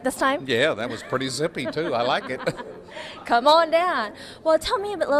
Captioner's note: laughs